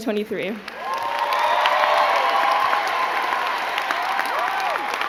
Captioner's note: crowd cheering and clapping